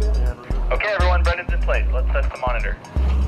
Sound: man on radio

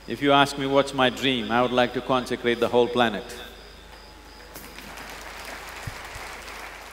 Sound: participants Clap

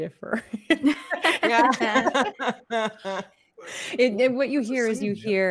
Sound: all laughing

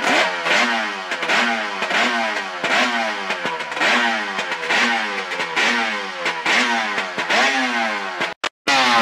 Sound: two-stroke outboard engine with expansion chambers revving; two-stroke outboard engine with expansion chambers revving even further

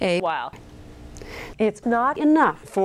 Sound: woman takes a breath

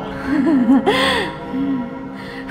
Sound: binx giggles

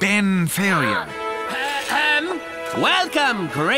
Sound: Xenon gasps

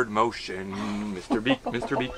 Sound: laughs

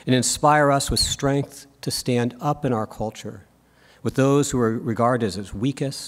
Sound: none

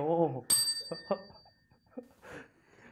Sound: chime

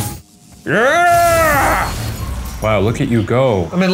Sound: grunts

